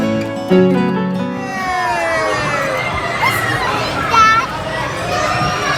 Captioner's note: kids screaming and laughing